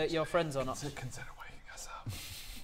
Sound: whisper

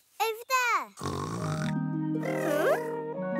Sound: snoring

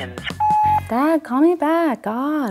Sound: phone beeps

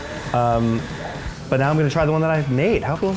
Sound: none

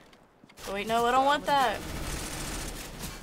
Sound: firing

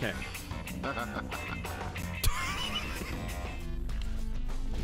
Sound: laughs

